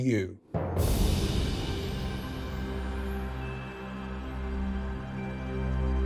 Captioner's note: soft music; wind whooshing